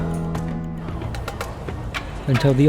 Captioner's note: piano music; noisy street